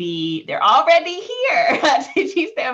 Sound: laughing

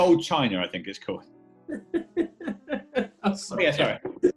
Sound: laughing

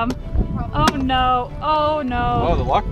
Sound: rock smacking

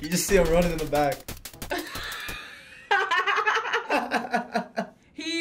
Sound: laughs

